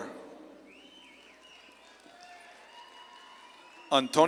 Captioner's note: audience claps and cheers